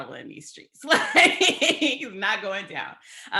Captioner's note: laughs